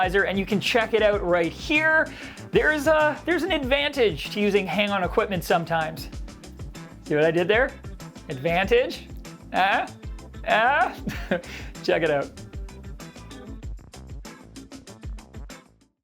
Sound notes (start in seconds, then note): 11.0 laughs; 13.4 upbeat music